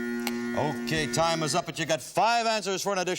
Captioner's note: timer buzzing